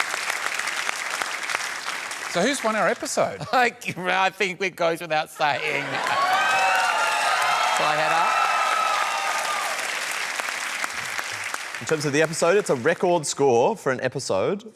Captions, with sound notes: So who's won our episode? I think it goes without saying. (CHEERING AND APPLAUSE) Shall I head up? In terms of the episode, it's a record score for an episode